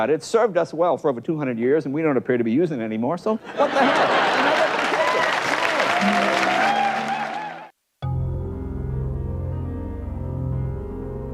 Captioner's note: laughter and applause in background